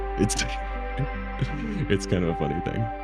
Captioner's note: laughs